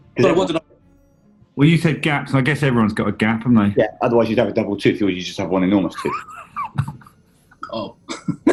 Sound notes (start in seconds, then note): 7.6 sniggering; 8.1 laughing